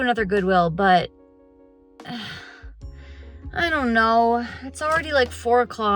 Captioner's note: sigh